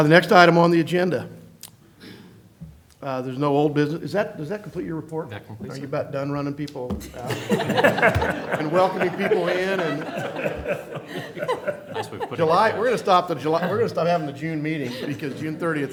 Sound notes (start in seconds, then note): 7.0 laughter